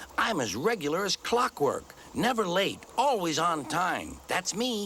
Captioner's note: none